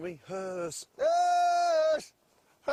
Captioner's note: reindeer call